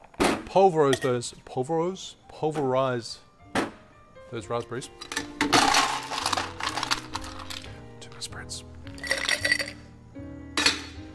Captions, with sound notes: Pulverize those- pulveroze? Pulverize those raspberries. (ice clatters) Too many spirits.